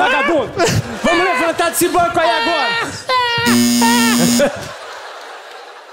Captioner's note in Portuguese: campainha